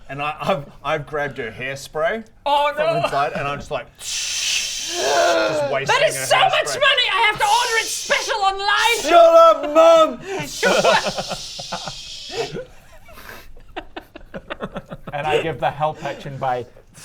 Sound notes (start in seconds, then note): 10.1 sssssssssssccch; 13.7 giggles